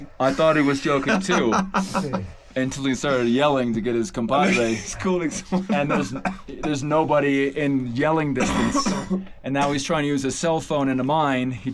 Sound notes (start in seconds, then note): 0.4 laughs; 5.2 chuckles